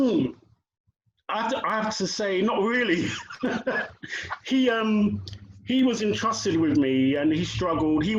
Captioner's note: laughter